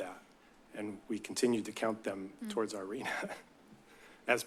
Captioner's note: chuckles